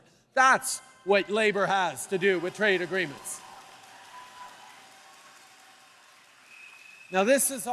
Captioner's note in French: Acclamations et applaudissements